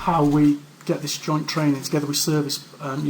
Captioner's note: voiceover